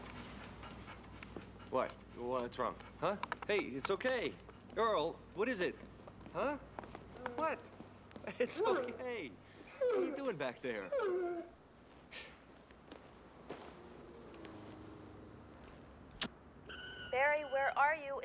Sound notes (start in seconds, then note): 9.6 earl whimpers; 15.0 answering machine beeps